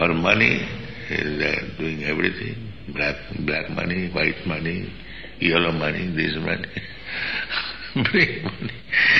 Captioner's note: laughs